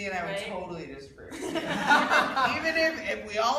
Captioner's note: laughing